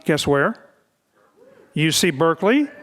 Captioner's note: crowd cheering